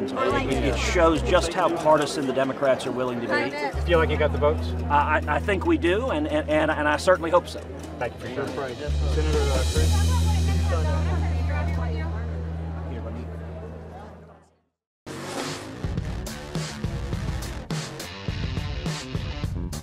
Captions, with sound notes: Do you feel like you've got the votes? Thank you for your time. [MUFFLED CROWD NOISES] [CLOSING SOUND EFFECTS]